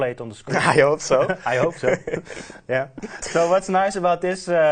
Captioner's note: laughing